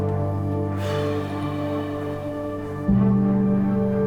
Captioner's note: exhales